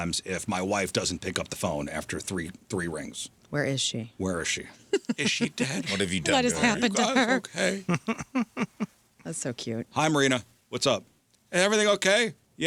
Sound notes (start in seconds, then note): 8.6 laughing